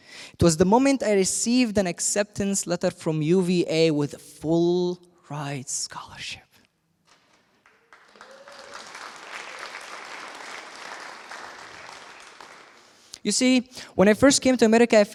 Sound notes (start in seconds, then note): 7.1 applause